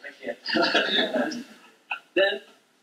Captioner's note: laughter